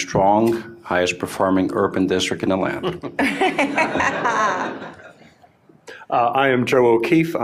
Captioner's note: laughter